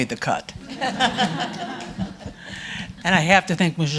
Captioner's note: audience laughing